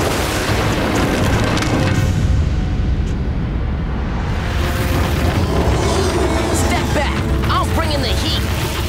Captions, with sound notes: [roaring] Step back, I'm bringing the heat!